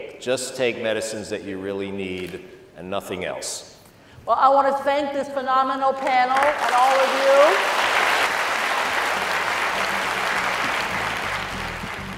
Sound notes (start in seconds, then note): 7.9 audience applauding